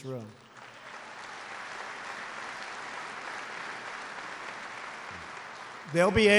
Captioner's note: applause